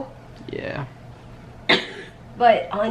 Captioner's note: coughs